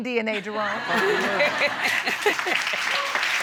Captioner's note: audience laughing